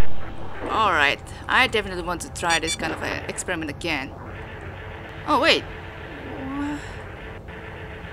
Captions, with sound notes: Alright. I definitely want to try this kind of, uh, experiment again. *sound cue for lost main video signal* Alright. I definitely want to try this kind of, uh, experiment again. Oh wait! Whuh....